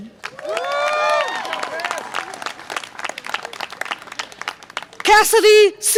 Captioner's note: audience applause and cheer